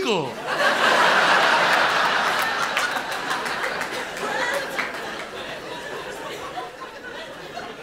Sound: loud laughter

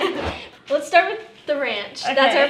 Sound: laughter

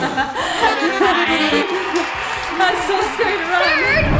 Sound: laughing

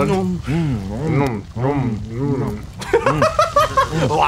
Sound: mimics munching sounds; laughs and mumbles

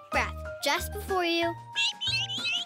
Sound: twittering

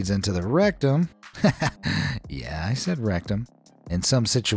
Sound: chuckles

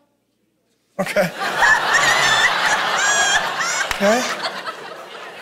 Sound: congregation laughing

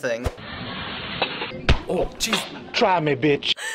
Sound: whump

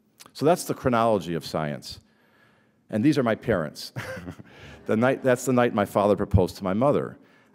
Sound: chuckle

